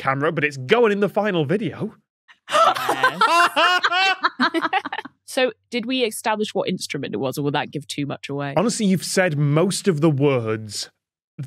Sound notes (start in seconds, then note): 2.4 guests laughing heartily